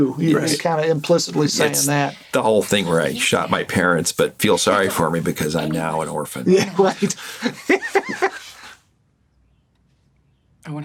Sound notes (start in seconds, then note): 8.1 laughs